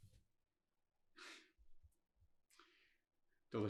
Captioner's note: sighs